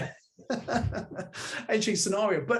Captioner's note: laughing